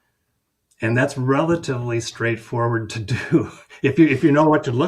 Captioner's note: chuckles